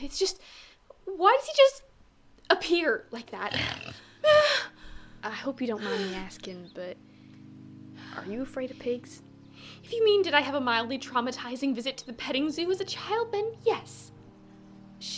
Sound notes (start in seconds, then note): 3.4 pig noises; 3.5 frightened noise